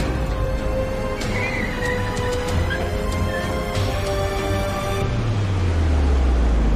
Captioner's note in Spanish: Chirrido de las llantas